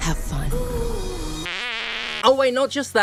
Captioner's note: fart